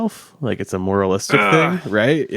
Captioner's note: grunts